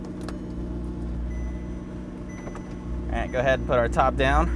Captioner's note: electronic dinging